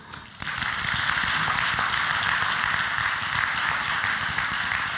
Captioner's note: audience applauds